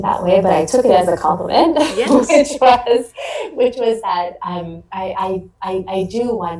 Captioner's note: laughs